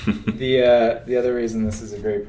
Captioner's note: chuckles